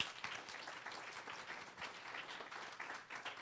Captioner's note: applause